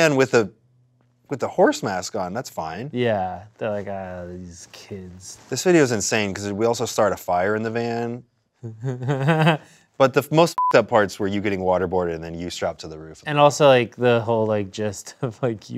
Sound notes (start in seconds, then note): 8.6 laughing; 10.5 beep